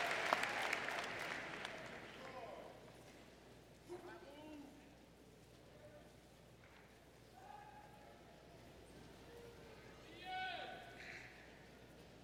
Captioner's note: cheers and Applause